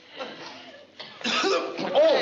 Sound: cough

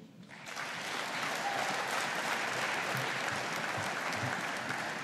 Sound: audience applauding

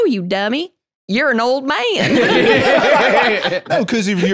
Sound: both laughing

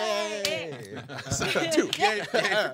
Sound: hands smacking

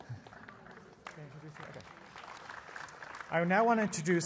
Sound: applause

